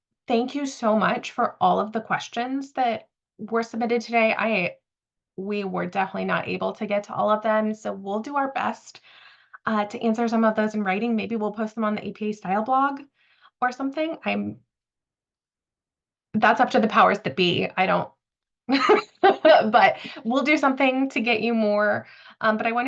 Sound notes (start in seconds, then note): 18.8 laughs